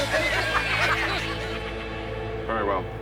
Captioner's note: sniggers; uproarious laughter